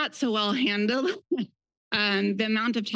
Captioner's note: laughs